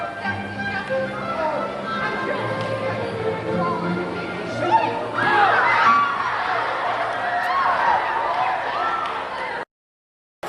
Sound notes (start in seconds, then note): 1.0 loud sounds of audience